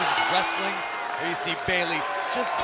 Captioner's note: bell ringing